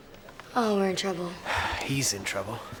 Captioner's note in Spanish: suspira